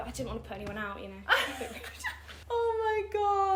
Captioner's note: chuckling